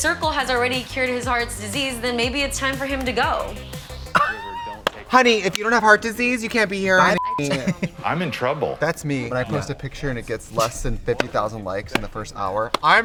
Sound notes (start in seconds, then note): 4.1 Katya laughs; 7.1 beep